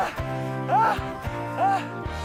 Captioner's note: argh